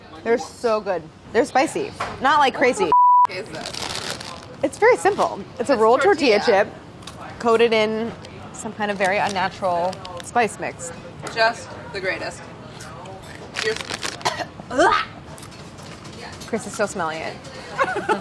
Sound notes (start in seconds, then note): 14.2 coughs; 14.3 splutters